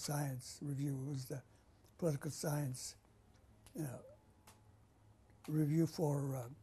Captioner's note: pauses for 3 seconds